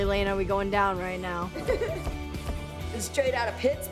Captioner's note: laughs